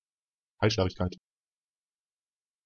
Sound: fast Pronunciation

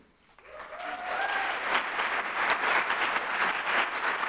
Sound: audience applauds

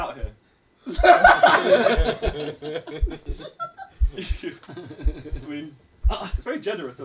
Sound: all laughing; heart beating; laughing; heart beating

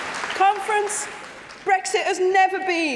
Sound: applause

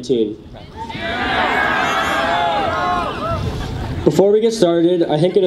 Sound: audience cheers

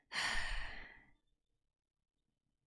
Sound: sighs

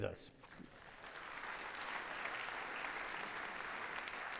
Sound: audience clapping

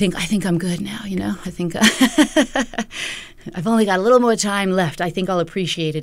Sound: laughter

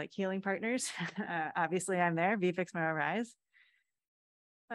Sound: laughter

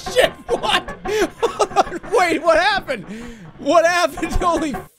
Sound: laughing

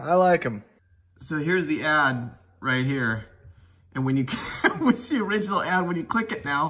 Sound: laughs

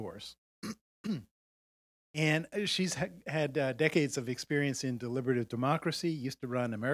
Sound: cough

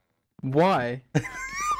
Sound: laughing

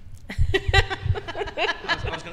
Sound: laughing

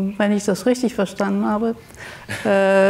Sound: speaks German; laughs

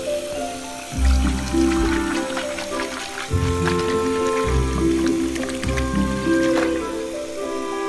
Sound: asmr noises

